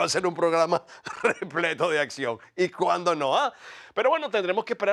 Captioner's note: laugh